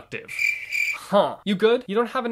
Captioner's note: crickets sound effect